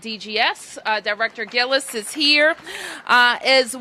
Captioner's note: applause